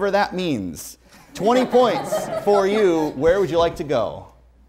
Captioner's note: laughs